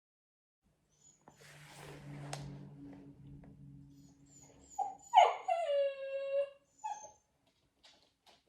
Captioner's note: Karry is whining